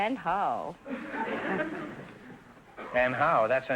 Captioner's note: audience laughter